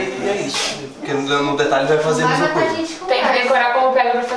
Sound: indistinct chatter

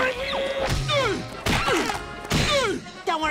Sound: grunting

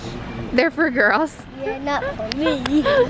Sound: laughs

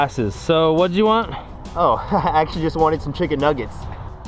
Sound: chuckles

